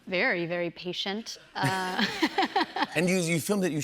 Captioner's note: laughs